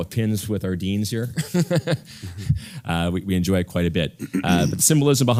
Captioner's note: laugh